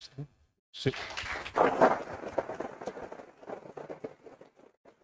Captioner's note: audience applause